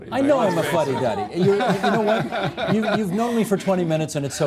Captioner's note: laughing